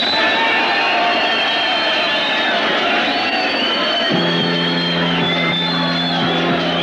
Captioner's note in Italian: applausi e fischi di contestazione